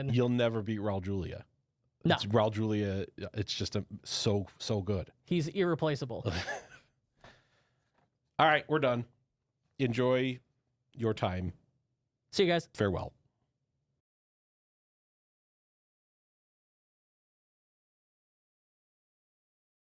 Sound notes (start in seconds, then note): 6.2 laughs